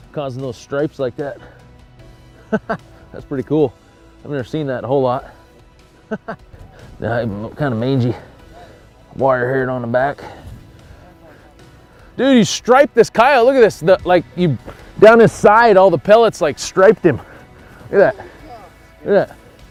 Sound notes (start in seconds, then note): 6.0 laughs